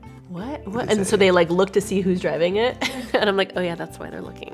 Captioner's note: laughs